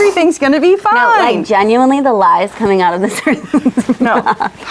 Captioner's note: laughs